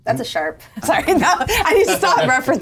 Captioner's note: laughs